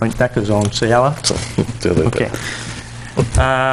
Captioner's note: chuckles